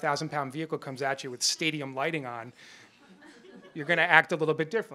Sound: chuckles

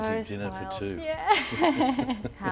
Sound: laughs

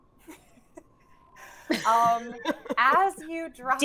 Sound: team laughs

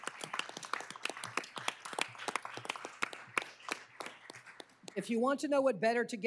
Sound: applause

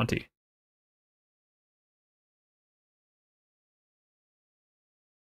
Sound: silence

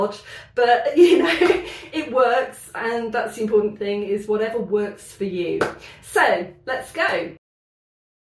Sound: laughing

